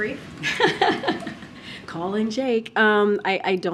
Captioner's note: laughs